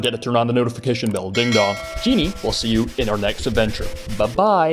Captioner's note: ding-dong